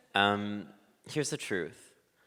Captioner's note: none